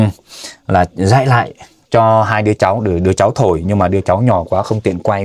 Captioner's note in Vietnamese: khịt mũi